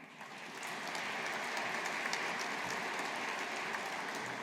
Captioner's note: audience applauding